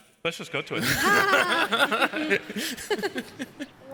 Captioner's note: laughs